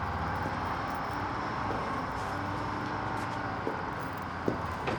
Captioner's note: traffic roaring